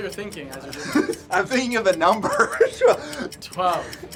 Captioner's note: laughs